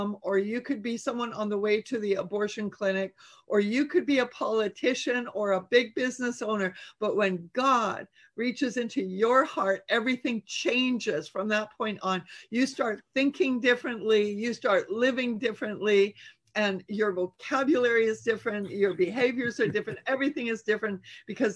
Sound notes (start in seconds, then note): 18.7 chuckles